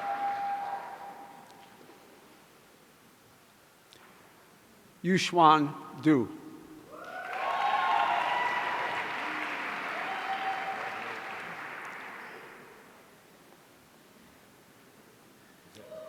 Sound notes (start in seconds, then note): 6.9 audience cheering